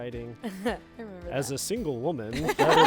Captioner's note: laughs